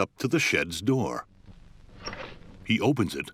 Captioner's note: creaking